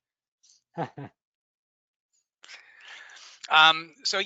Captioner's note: laughs